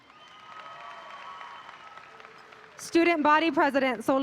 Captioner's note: audience applauding